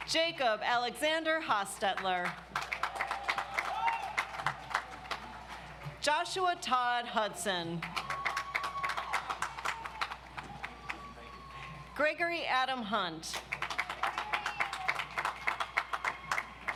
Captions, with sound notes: Jacob Alexander Hostetler. (audience applauds) Joshua Todd Hudson. (audience applauds) Gregory Adam Hunt. (audience applauds)